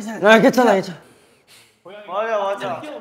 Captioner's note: sighs with his nose